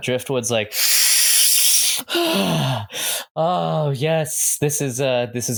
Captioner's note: inhales loudly and deeply, then exhales with a loud sigh